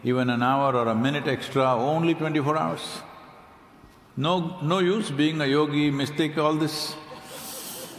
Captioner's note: laughter